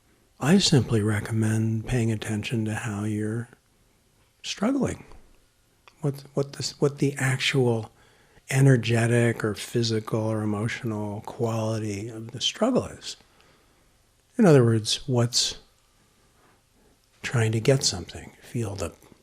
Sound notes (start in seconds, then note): none